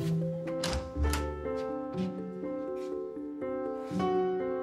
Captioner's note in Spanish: Sonido al abrir la puerta